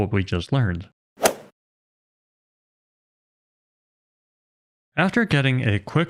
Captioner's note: golf ball hit sound effect